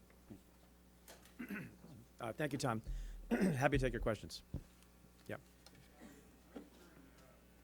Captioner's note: clears throat